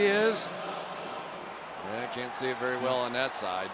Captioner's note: pa announcement